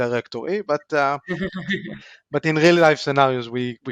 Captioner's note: laughs